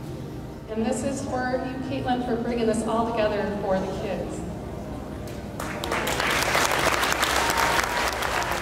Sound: clapping

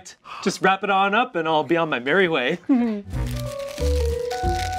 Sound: giggles; quirky music

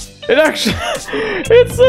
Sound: wheezes

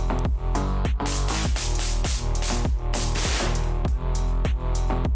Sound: dynamic music plays; explosion sound; sound of an assault rifle; dynamic music is playing

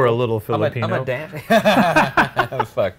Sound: Shane and Ryan laughing

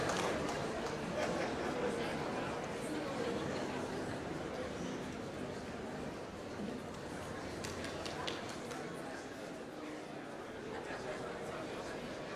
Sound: applause

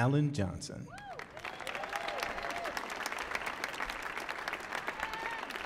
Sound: audience applauding

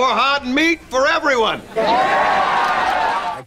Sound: cheering

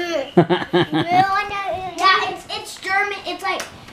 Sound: dad laughing

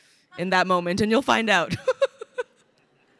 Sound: laughs

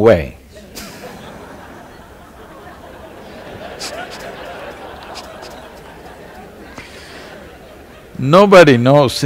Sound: laughter

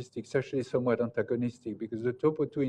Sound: off microphone

